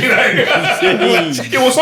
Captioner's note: laughing